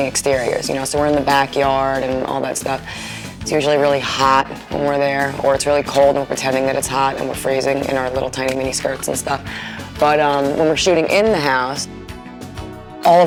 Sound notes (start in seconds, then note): none